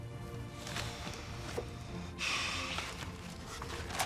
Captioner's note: sighs